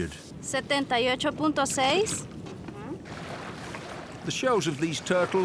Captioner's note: speaks in foreign language